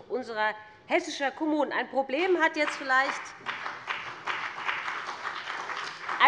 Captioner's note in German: Beifall bei dem BÜNDNIS 90/DIE GRÜNEN und der CDU